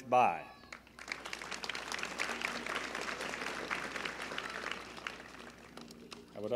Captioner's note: applause